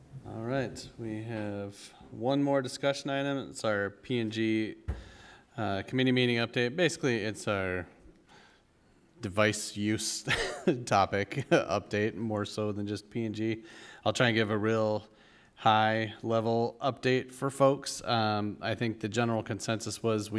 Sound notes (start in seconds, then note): 10.2 chuckle